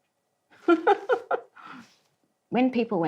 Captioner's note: laughs